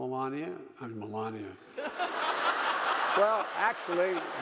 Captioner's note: audience laughing